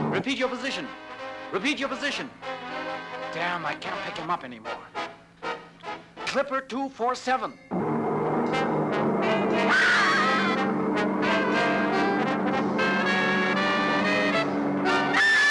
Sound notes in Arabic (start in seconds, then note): 8.1 هدير الطائرة; 9.7 صراخ; 11.8 موسيقى درامية